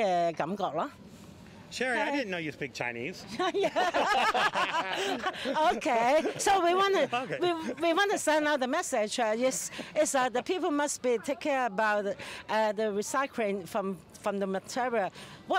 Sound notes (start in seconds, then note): 3.4 laughing